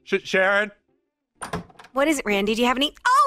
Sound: door opening

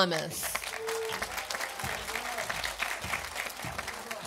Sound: audience applauding

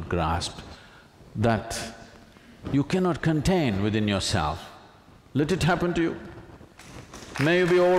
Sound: applause

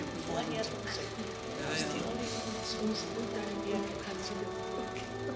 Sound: triumphant music; speaks foreign language

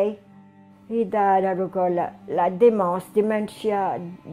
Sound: speaking foreign language

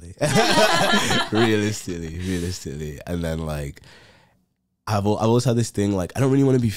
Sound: laughs

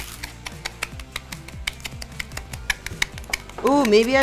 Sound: metal tapping on wood

